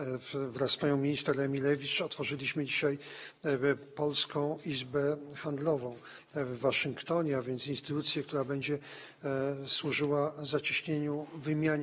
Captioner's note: speaking polish